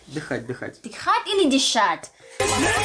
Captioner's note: breathe